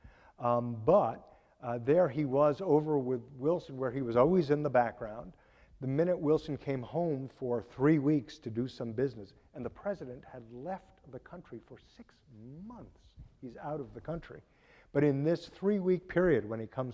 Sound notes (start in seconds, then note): none